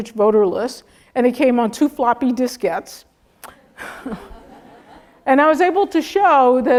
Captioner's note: laugh